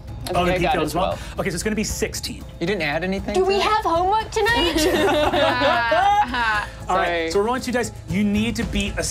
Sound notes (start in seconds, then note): 4.6 laughs